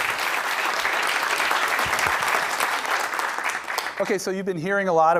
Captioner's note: applause